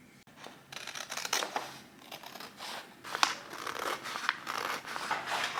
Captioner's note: paper cutting sounds